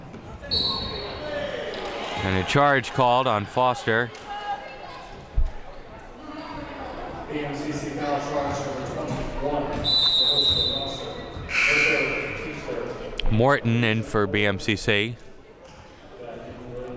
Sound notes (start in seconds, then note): 11.4 whistle blowing; 12.6 buzzer sounding